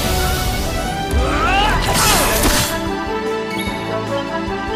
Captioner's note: explosion blasts; Erik grunting